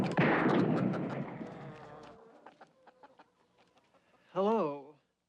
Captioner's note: chickens clucking